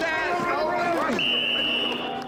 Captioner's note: group chattering; whistle blowing